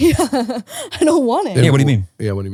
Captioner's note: laughing